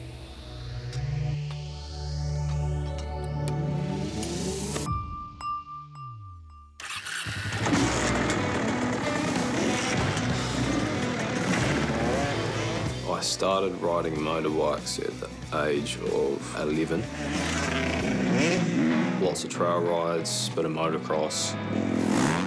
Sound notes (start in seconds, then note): 6.8 motorbike starts, revs; 9.8 rock music